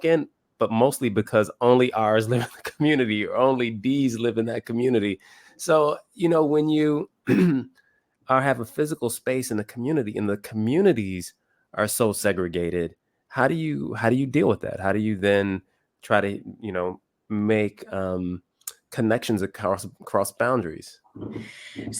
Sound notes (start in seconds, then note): 2.3 laugh; 7.2 cough